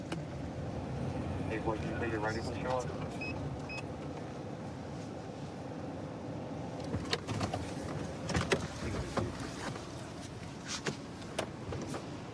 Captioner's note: indistinct dispatch speech